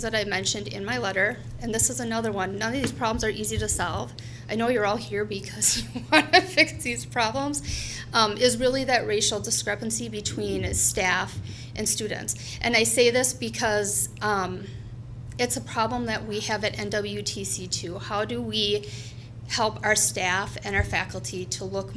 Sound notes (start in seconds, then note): 5.8 laughs